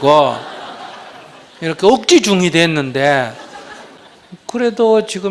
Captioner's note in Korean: 청중 웃음